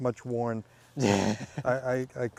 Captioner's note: laughing